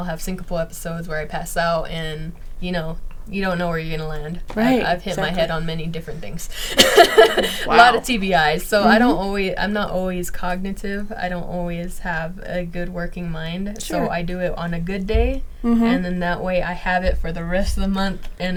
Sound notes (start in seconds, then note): 6.6 laughing